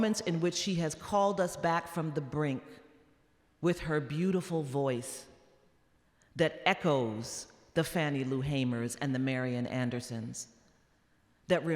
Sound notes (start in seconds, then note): none